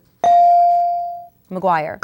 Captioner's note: ding